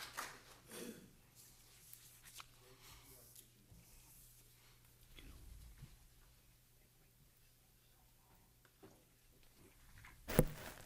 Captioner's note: applause